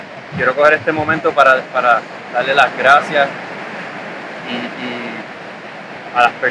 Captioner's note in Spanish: sonido olas